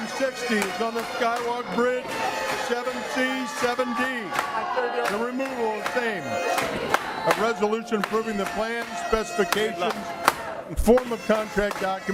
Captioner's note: audience chanting we vote no